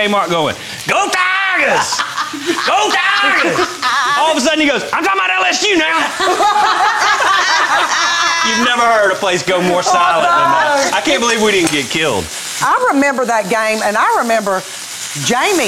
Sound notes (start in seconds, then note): 6.0 girls laughing